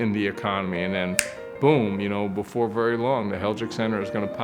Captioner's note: finger snap